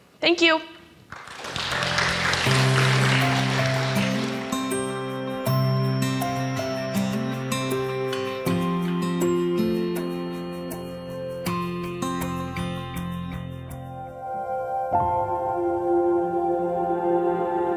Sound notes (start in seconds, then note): 1.0 audience clapping; 2.5 gentle music; 12.1 gentle music continues